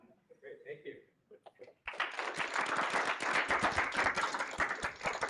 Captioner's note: applause